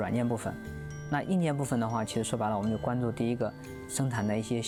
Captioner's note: speaking chinese